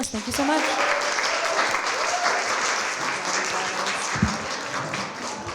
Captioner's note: applause